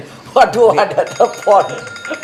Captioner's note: laughs